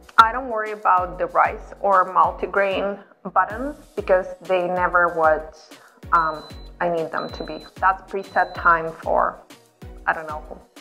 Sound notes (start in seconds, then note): 6.3 beeping